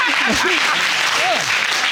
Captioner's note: both laughing; audience applauding